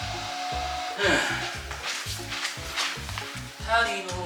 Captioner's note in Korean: 어지간히 운동 가기 싫어 보이는 사운드